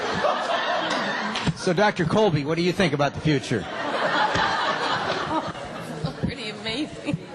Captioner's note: laughter